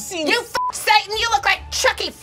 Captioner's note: beep